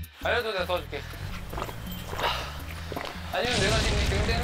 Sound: swallowing

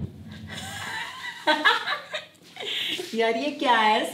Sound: laughing

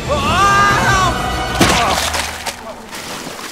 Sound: Zach yelling

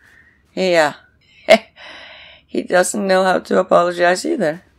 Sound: chuckles

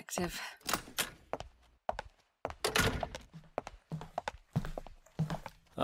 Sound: door opens then closes

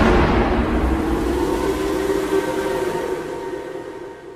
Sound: Demon Hiro's Whistle

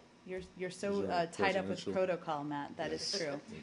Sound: laughter

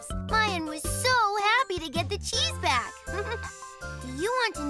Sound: giggles

